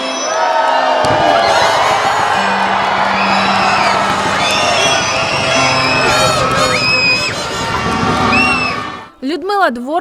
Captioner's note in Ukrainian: Радісні вигуки публіки